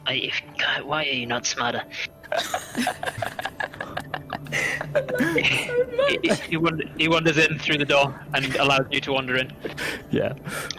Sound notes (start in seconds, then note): 2.2 players' laughter; 4.7 under her breath